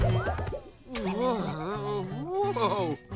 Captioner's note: groaning